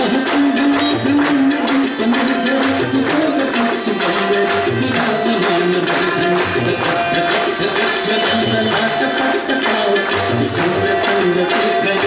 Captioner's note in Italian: Applauso